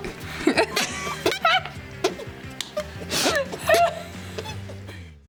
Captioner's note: laughing